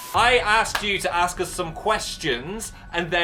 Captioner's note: none